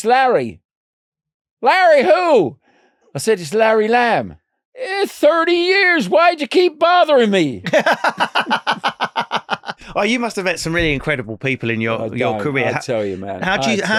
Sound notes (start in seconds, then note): 7.6 laughing